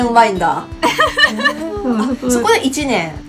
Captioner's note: haha